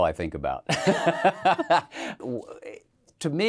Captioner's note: both laugh